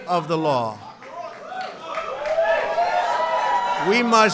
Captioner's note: applause